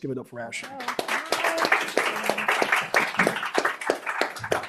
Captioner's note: applause